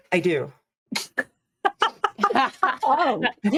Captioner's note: cast members laughing